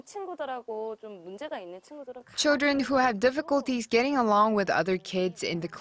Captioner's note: Korean